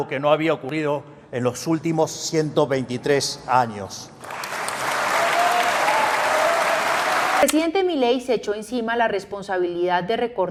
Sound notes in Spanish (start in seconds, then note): 4.2 Aplausos